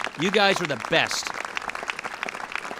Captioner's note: applause